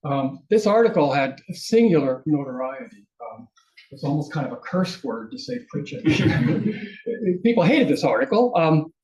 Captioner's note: audience laughs